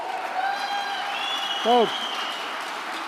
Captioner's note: applause